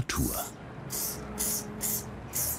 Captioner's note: hissing spray sounds